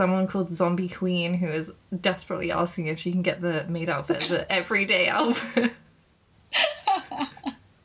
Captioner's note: laughing